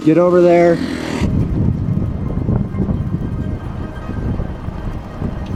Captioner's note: air whooshing